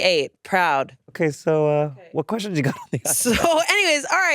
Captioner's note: laughs